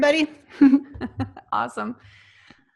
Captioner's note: laughs